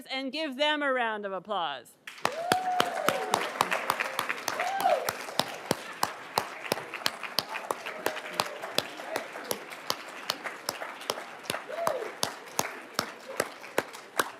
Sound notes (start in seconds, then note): 2.3 everybody cheering and applauding